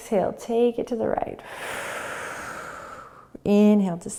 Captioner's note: exhaling